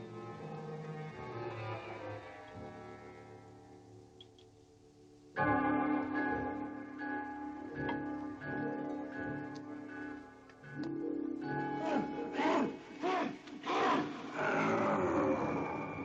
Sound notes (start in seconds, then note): 5.5 dramatic music; 12.6 muffled yelling